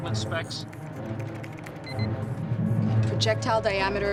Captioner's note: alarm